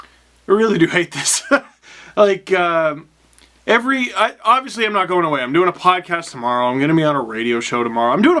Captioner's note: laugh